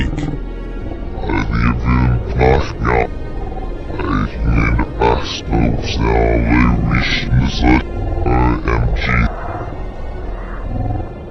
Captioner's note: glitched gibberish